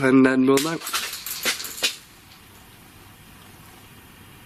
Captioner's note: rattling